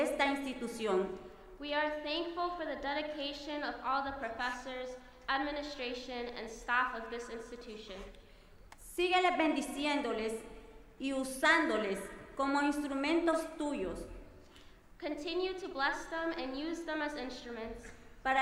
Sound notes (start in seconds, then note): 8.7 speaking in foreign language